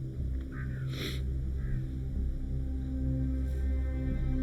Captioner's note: crow cawing